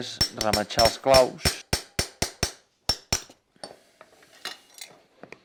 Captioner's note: hammer striking nails